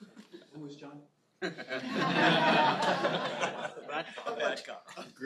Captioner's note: laughter